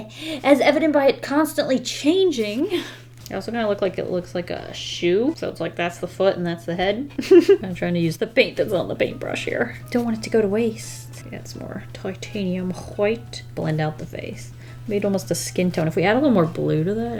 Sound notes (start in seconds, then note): 7.1 giggles